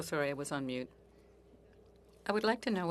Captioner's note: speaking in French